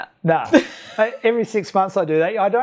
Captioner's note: laughs